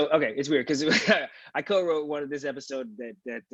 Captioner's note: laughs